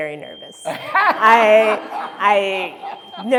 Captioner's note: crowd laughing